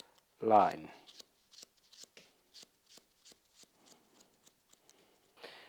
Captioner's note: scissors snipping